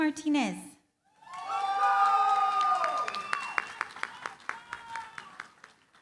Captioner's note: cheering, applause